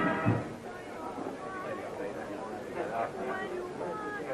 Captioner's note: crowd chattering